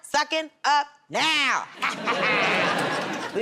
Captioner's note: laughter